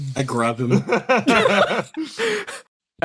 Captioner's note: laughs